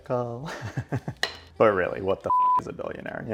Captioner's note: laughs; beep